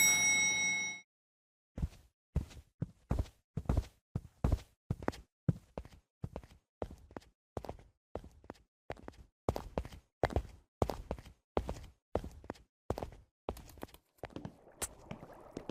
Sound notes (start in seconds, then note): 0.0 elevator dings; 2.4 footsteps fall